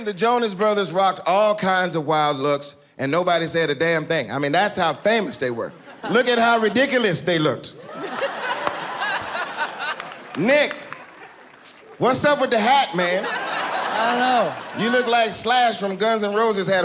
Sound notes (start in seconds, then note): 7.8 people laughing